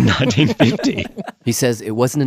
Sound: laughs

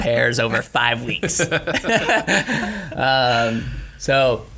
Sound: laughing

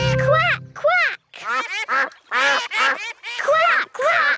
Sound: quacking

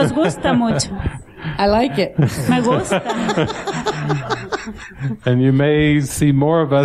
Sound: laughter

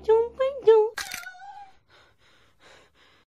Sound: making Baby Noises; creak; meow

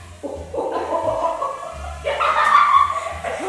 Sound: laughs

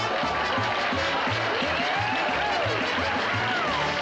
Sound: cheers, applause and whoops

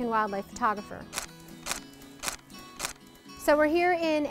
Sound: camera clicks

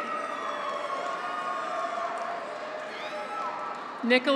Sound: graduates cheer; audience applauds

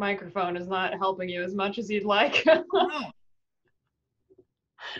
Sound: laughs

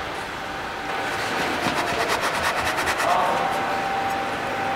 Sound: high machine hum, distant voices

